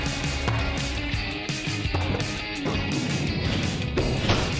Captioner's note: pumpkins thudding